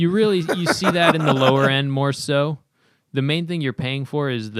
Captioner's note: laughter